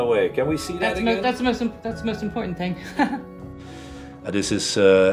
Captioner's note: laughs